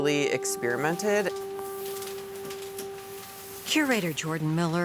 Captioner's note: paper rustling